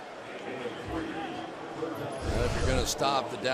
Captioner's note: pa announcement